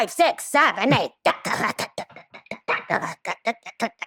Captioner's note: imitates tap dancing